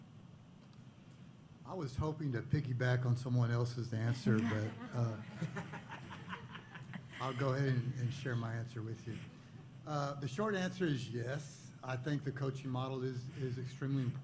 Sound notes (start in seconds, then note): 4.0 laughter